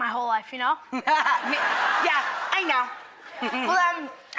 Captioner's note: Rachel and audience laugh